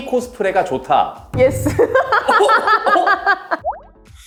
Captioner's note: laughs